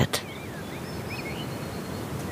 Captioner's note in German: Vogelzwitschern